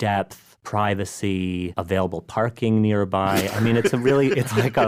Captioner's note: laughs